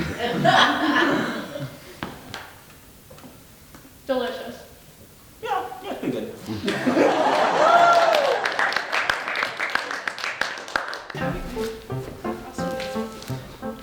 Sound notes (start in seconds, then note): 0.0 audience laughing; 6.6 audience laughing and applauding